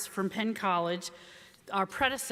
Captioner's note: none